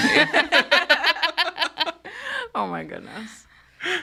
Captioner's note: all laughing